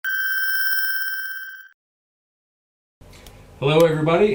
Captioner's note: electronic ringing